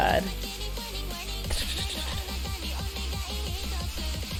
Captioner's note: imitates drum beats